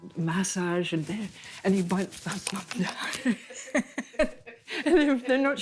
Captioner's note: laughing